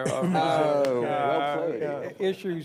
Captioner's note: laughter